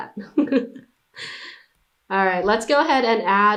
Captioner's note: laughs